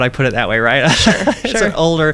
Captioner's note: laughs